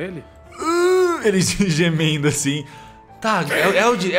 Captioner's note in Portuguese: Aurgh